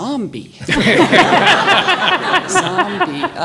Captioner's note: audience laughs